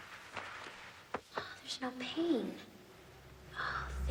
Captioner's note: sighs; gasps